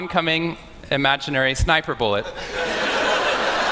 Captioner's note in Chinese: Laughter; 笑聲